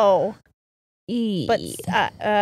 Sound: groans

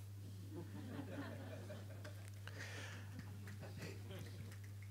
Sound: chuckles from audience

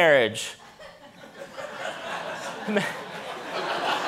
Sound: audience laughing

